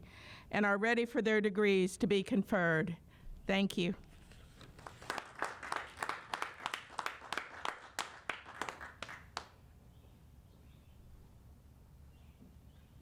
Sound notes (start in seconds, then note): 4.6 applauding